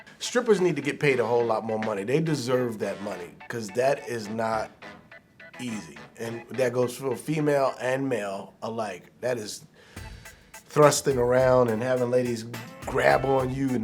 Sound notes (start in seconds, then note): 9.7 inhales